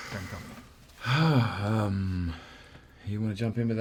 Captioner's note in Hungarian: Hiddleston belélegez